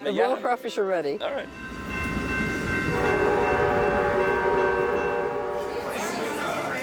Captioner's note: railroad crossing signal and train horn; crowd chatter